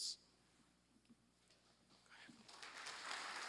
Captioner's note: applause